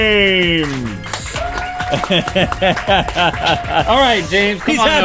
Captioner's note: crew applauds